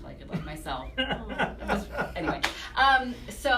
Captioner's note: laughter